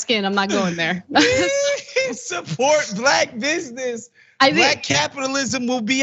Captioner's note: laugh